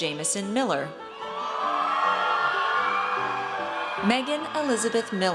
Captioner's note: audience cheers